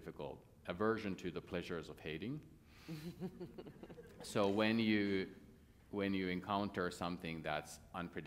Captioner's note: laughter